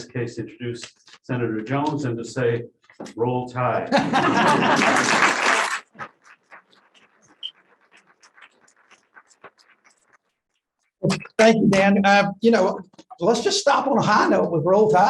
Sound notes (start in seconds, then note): 3.8 laughter; 4.4 applause